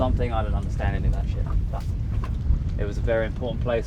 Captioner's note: none